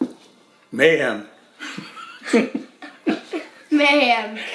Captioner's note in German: lacht